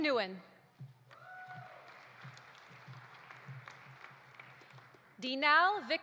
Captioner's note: audience applauding; audience cheering